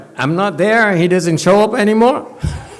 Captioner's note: laughs